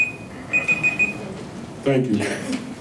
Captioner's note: alarm Beeps